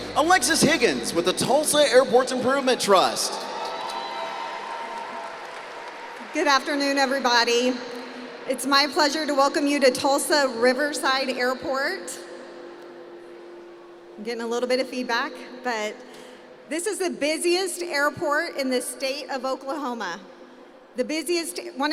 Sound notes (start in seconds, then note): 2.6 cheering